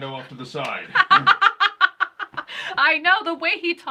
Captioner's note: laughing